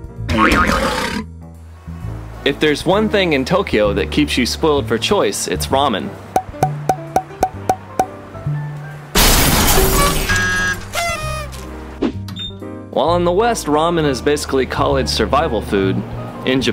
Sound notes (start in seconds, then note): 0.3 roaring; 9.1 glass shatering